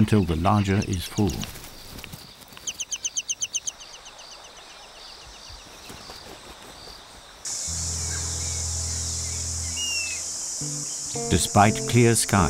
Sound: birds chirping

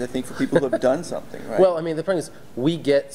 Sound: laughs

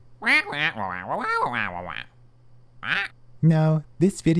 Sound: squawking

